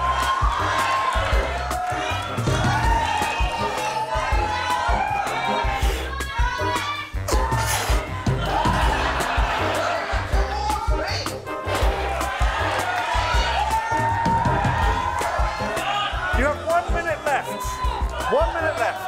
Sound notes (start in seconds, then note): 0.0 cheering; 5.1 cheering; 12.7 laughter and cheering